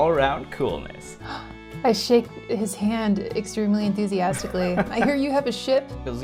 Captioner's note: gasps